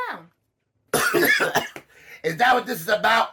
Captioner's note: Bobbo coughing